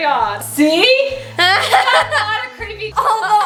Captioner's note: laughs